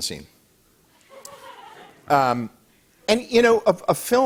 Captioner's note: light laughter